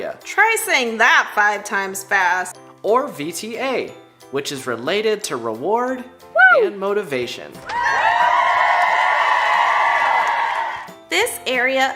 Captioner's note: cheering